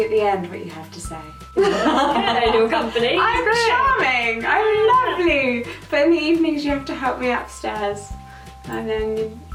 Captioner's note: laughing